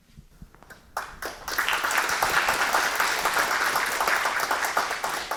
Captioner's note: audience clapping